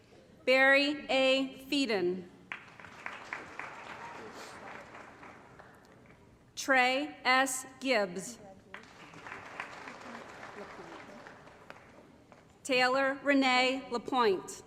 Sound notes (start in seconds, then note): 2.4 applause; 8.6 applause